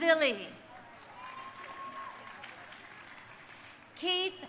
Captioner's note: crowd cheering